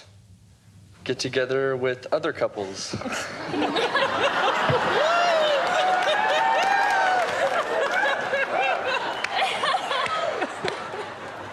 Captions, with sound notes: How about get together with other couples? [ Laughter ] Whoo! [ Laughter ]